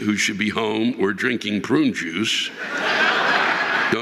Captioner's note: audience laughing